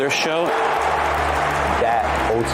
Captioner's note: crowd cheering